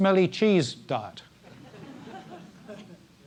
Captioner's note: laugh